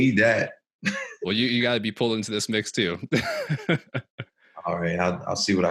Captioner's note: chuckles